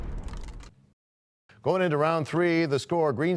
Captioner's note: crashing sound